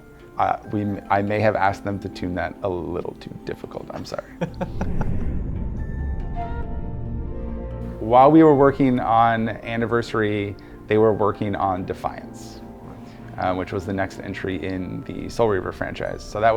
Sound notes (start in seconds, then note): 4.2 interviewer laughing; 6.1 whimsical music